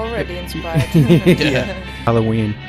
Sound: laughter

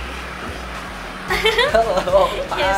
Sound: chuckles

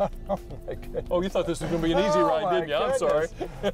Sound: laughter

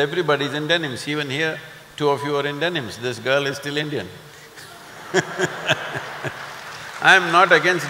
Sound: laughter/Applause

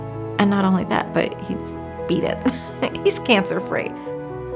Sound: chuckles

